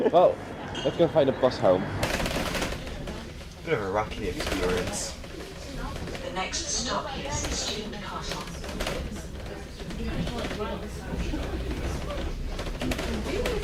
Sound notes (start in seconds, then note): 6.2 bus announcement